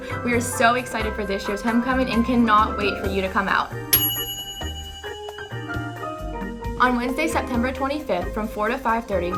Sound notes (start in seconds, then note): 3.9 timer dings